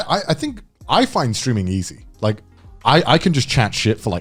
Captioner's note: none